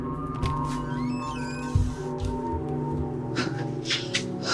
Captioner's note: door creaking; Ally panting